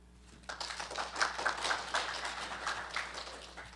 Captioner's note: applause